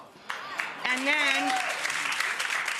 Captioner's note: crowd clapping